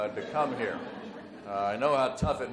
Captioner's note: audience laughs